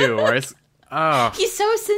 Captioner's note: laughs